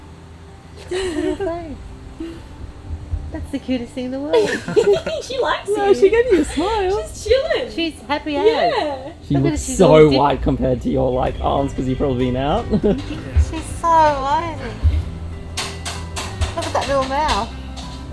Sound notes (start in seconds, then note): 0.8 laughs; 4.3 background laughing; 12.6 laughs